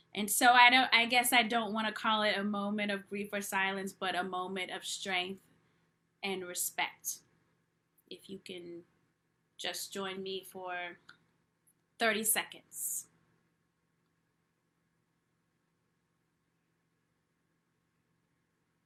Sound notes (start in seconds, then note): 13.0 silence